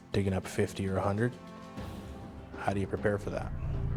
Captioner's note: voiceover